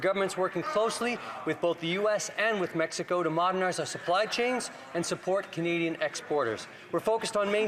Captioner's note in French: voix de l'interprète